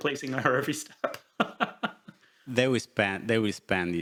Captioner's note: laughs